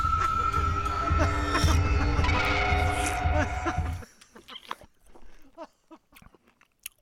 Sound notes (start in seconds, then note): 0.0 laughing; 2.0 eating